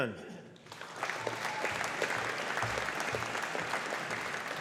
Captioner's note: audience applauding